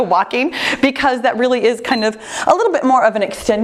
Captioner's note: timer beeps